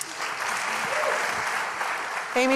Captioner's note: applause